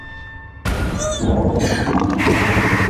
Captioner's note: gagging